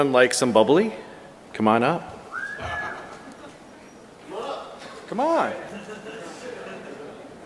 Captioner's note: laughter